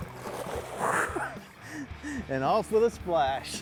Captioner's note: laughing